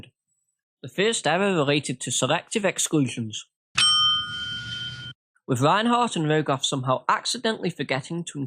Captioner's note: ding